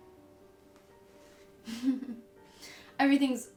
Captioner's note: chuckles